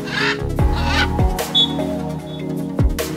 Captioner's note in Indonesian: Suara Burung; Peluit